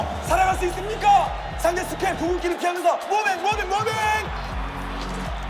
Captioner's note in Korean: 환호성